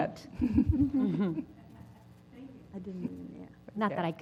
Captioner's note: laugh